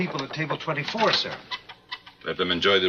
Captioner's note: none